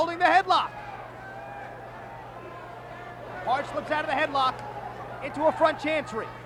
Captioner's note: applause